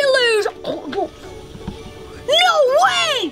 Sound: munching

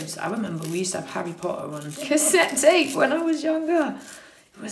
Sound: laughing

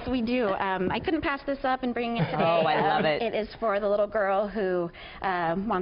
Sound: laughter

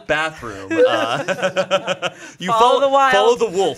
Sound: everyone laughs

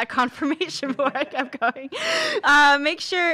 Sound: laughs

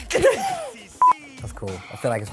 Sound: beep

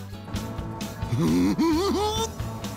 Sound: giggling

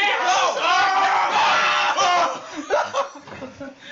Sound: concerning amount of yelling

